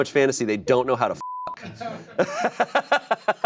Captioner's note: beep; laughing